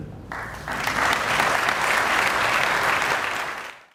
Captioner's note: audience applauding